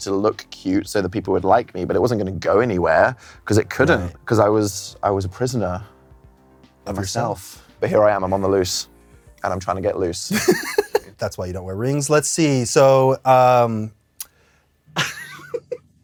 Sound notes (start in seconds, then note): 10.3 laughs; 14.9 chuckles